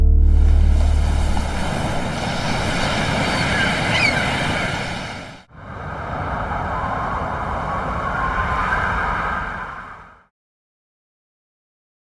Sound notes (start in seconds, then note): 0.6 waves crash; 5.8 wind blows